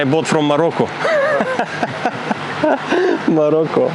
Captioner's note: laughing